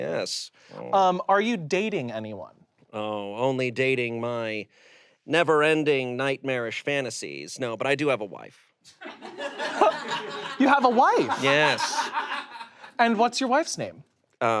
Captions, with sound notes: - Yes. - Are you dating anyone? - Oh, only dating my never ending nightmarish fantasies. No. But I do have a wife. (audience laughs) - You have a wife? - Yes. - And what's your wife's name?